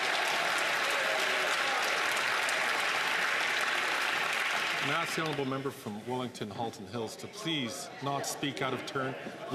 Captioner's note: some Applause